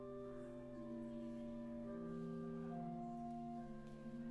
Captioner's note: chatter